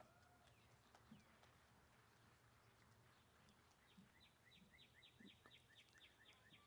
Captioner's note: applause